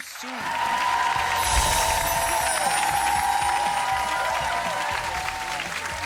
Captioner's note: audience applauds and cheers